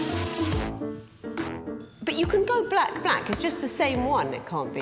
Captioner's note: shredder buzzing; playful music